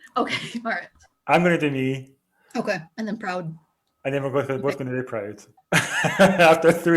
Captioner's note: laughs